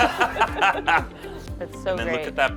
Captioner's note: laugh